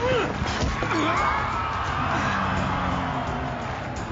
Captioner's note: grunts; cries out